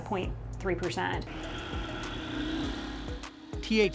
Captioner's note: machine whirring